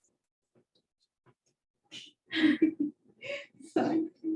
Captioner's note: laughter